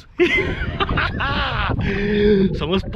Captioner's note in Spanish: Risas